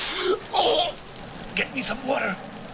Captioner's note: Valentin groaning